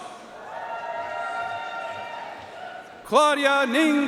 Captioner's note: audience cheering and applauding